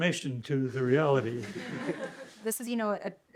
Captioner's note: laughter